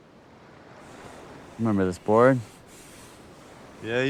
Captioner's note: hand rubbing